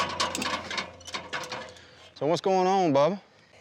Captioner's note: ladder clattering